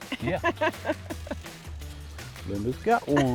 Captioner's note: laughter